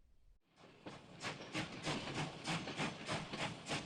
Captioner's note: train chugs